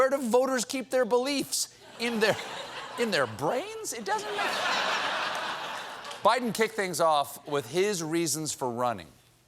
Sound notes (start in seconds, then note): 4.0 laughter